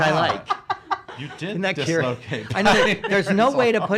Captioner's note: laughs